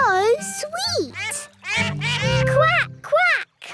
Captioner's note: all laugh